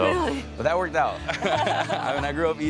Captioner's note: laughs